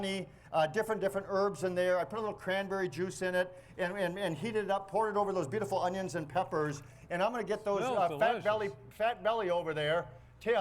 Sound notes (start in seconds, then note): none